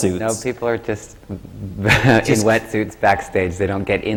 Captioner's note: laughs